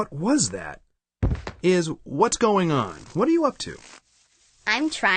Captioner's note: bump